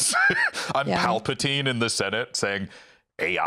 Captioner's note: laughs